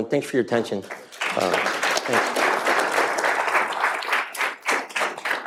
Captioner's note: audience applauding